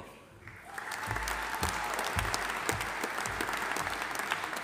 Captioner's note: audience applauding